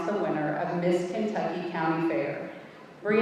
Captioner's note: none